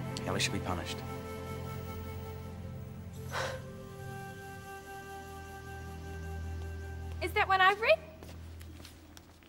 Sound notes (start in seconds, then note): 3.2 Amber sighs; 6.0 somber music